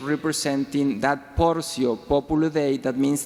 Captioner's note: speaking foreign language